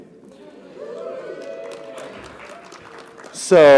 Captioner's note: audience cheering; audience applauding